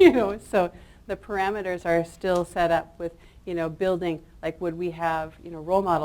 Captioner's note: chuckles